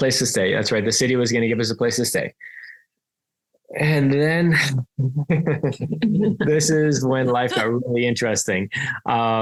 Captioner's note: laughs